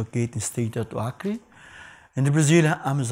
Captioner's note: speaks in foreign language